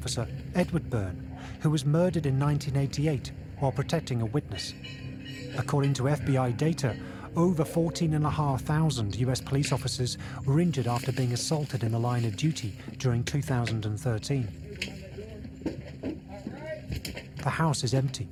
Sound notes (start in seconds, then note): 15.1 indistinct chatter